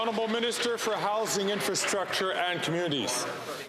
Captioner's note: some Applause